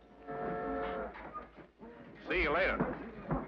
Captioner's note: train horn whistles